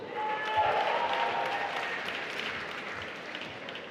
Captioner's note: applause